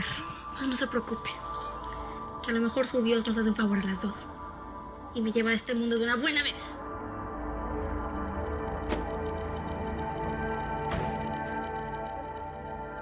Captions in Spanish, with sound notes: YA NO SE QUE HACER. - NO, NO SE PREOCUPE. QUE A LO MEJOR SU DIOS, NOS HACE UN FAVOR A LAS DOS. !Y ME LLEVA DE ESTE MUNDO DE UNA BUENA VEZ! [Portazo]